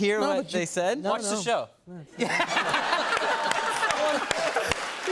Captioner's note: laughter